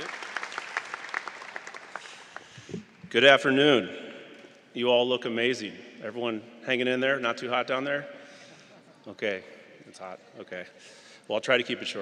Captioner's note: applause